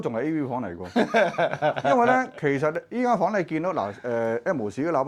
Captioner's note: haha!